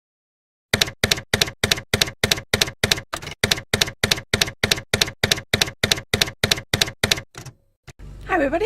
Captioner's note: typewriter keys clacking